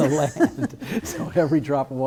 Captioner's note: both laughs